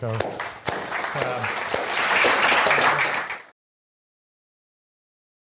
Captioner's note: applause